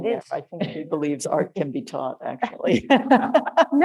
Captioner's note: laughing